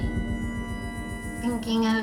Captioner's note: high-pitched sound